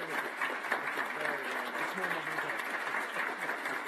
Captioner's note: applause